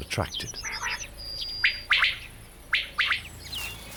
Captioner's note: quail calls